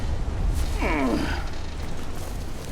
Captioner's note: groan